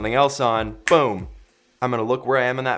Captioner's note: snapping sound